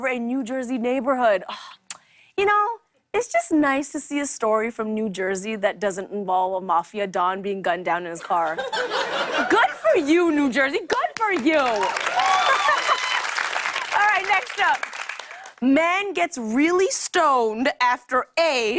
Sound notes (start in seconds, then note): 11.6 cheers and applause